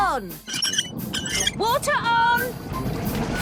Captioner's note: wheel squeaking